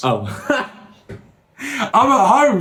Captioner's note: laughing